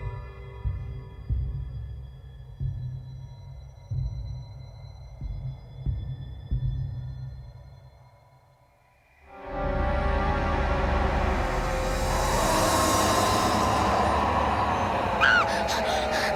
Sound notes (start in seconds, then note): 12.0 roaring faintly; 12.4 screams; 15.1 panting